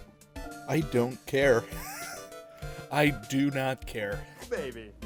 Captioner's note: wheeze